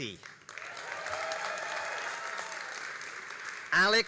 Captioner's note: all applauding and cheering